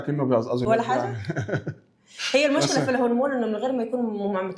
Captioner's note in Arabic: ضحك